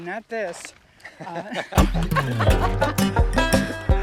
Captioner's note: laughing; relaxing banjo music